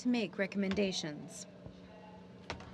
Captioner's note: speaking french